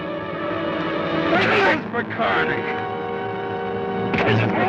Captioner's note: Joshua groans